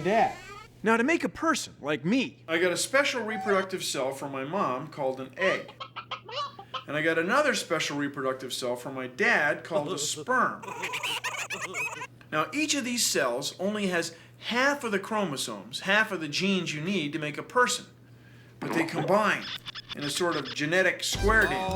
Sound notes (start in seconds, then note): 5.4 chicken squawking; 10.6 high-pitched laughter